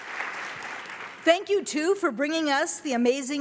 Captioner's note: applause